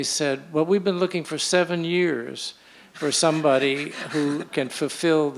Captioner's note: laughter